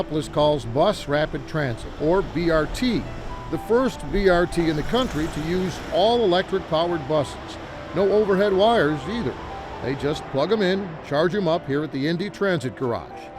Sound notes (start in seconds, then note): 2.6 motor rumbles; 6.6 traffic whooshes